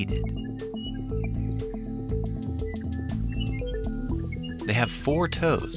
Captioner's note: birds chirping; upbeat music